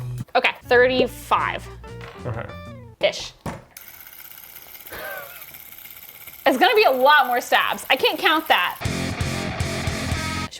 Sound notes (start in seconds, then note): 3.7 device clicking; 8.8 upbeat rock music